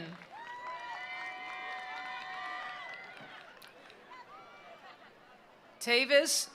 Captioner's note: attendees applauding; attendees cheering